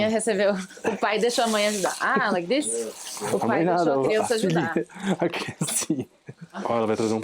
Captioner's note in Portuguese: risadas